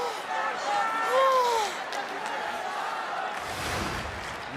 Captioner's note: crowd chanting; scene swooshing